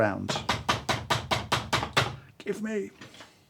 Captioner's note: loud knocking